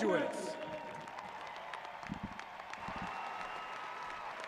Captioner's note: audience cheering